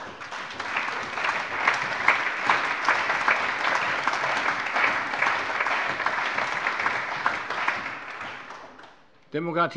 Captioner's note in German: Allgemeiner Beifall